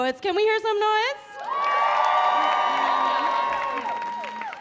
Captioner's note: audience cheering